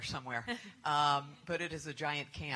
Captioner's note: laughter